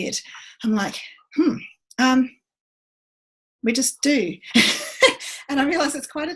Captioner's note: laughs